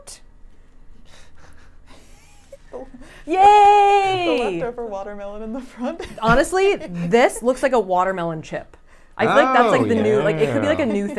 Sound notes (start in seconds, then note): 1.4 chuckles; 3.5 laughs